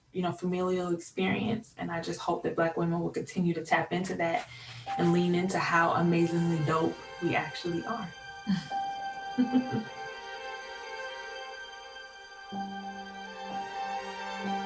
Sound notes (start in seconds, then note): 9.4 laughing; 11.2 soft orchestral music